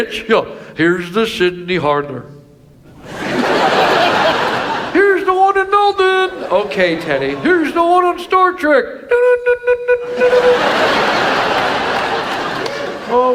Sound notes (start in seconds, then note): 2.9 audience laughs; 9.1 Ted E mimics